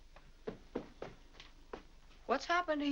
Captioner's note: footsteps up stairs